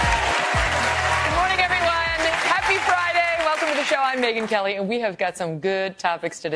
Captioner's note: applause